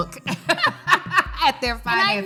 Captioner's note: both laughing